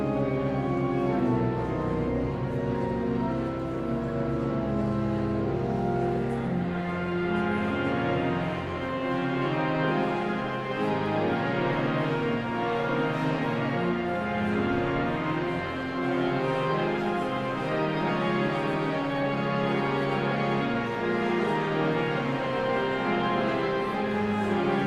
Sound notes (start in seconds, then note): 0.2 somber organ music continues; 5.5 audience chattering continues; 15.6 somber organ music continues; 20.7 audience chattering continues